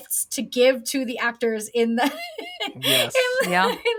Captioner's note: she laughs